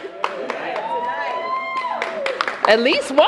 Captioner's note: cheers and applause